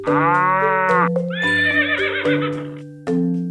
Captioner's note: neigh